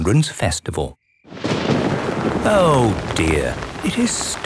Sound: thunder rumbling

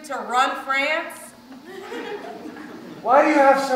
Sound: audience laughs

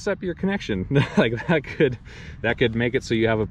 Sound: chuckles

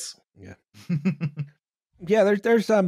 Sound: understanding chuckle

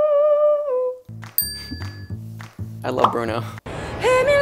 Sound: bell dings

